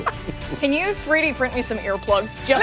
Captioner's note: laughter